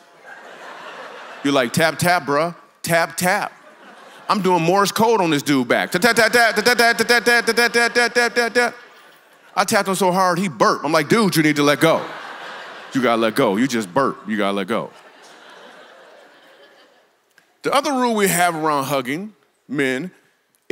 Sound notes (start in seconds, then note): 0.0 congregation laughs; 5.9 imitating Morse code; 15.5 congregation laughs